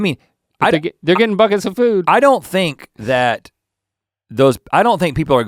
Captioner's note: chuckles